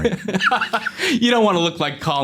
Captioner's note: laughing